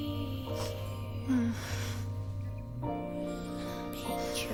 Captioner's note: moans